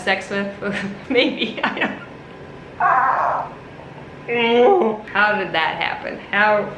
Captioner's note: groans; laughs